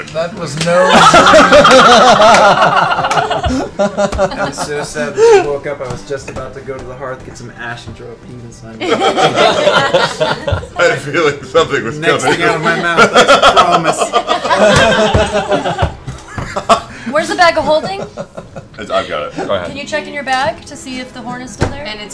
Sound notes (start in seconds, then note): 0.8 laughter